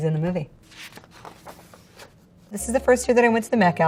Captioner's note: page rustles